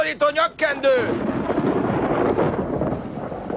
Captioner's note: thunder